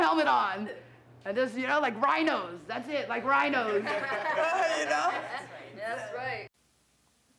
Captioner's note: laughs